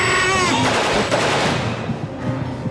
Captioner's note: gunfire